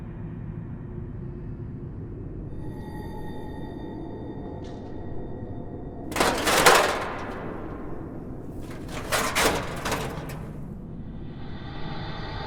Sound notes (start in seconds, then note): 6.1 furniture clattering